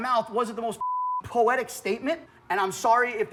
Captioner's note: beep